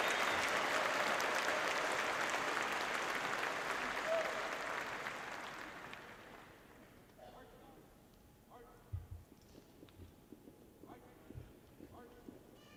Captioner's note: cheering and applause